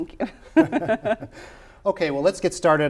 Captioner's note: laughter